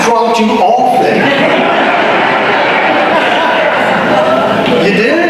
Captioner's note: audience laughter